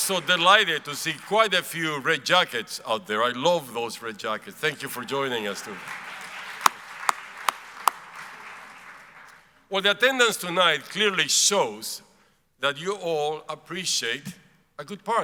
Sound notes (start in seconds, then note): 4.9 applauds; 7.6 audience applauds